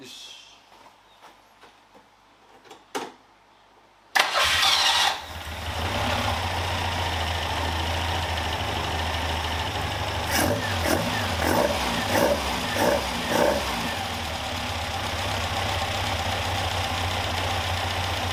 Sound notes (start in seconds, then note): 4.2 engine whirring